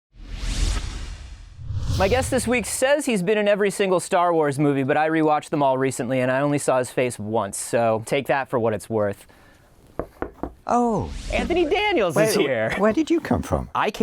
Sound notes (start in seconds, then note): 0.2 swoosh; 10.0 knocking